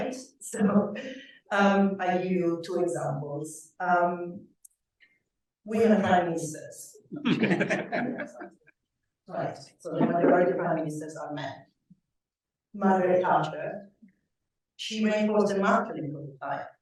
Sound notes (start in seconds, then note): 7.2 laughter